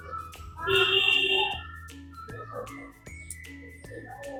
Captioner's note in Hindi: चीखने की आवाज़